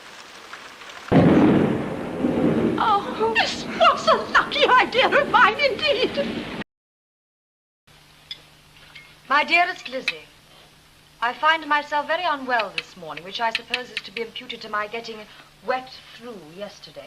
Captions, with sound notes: [clap of thunder] this was a lucky idea of mine, indeed 'my dearest Lizzy, I find myself very unwell this morning which I suppose is to be imputed to my getting wet through yesterday